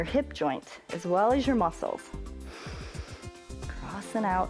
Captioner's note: inhales